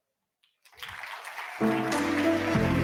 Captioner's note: audience applauds; upbeat music